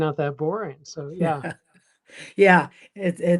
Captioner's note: chuckles